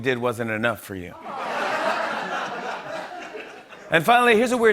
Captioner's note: laughter